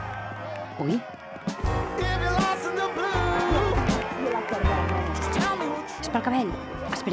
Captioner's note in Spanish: Aplauso